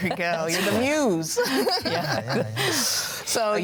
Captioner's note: joyful laughing